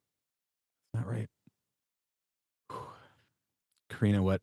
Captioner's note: exhales